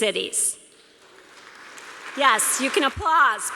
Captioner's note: applause